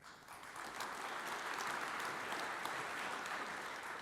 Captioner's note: audience applauds